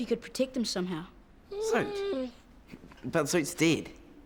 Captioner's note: dog whimpers